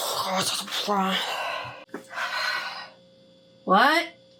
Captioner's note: frustrated noises